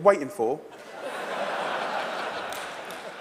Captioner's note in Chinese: 笑聲